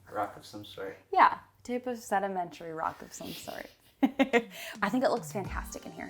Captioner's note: laughing